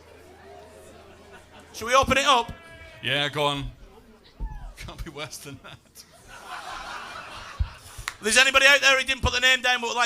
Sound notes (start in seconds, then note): 5.2 laughter